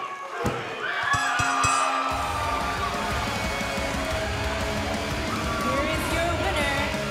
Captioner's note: bell ringing